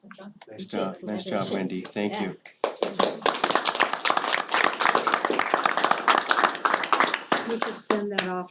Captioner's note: applause